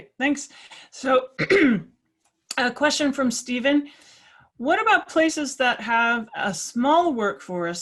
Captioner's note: cough